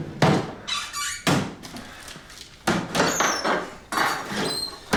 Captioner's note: cabinets creaking